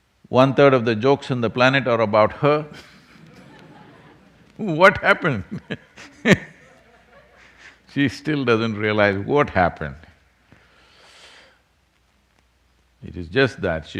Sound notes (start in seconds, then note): 2.6 laughter; 6.6 laughs